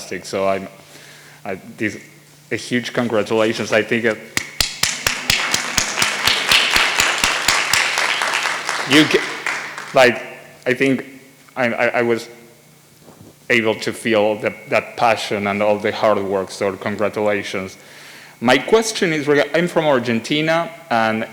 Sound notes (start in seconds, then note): 4.4 speaker applauds. audience joins